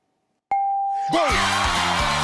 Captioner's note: bell chimes; energetic music